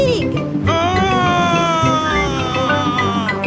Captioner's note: screaming